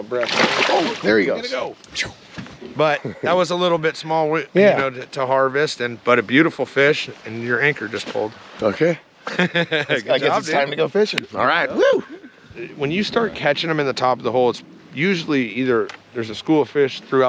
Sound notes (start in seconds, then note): 2.8 fish splashing; 5.5 chuckling; 9.2 chuckling; 11.8 chuckling